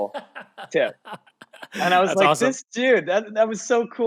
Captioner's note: laughing